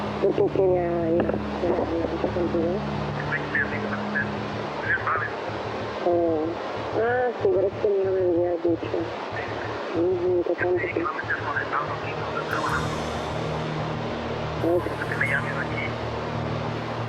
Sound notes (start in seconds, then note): 0.9 on phone; 1.7 non-english speech; 3.4 on phone; 4.3 non-english speech; 7.2 on phone; 8.6 non-english speech; 12.1 on phone; 13.9 non-english speech